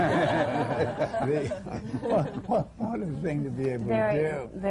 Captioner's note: laughter